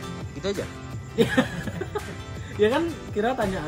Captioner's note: laughing